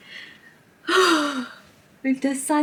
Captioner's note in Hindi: विस्मयित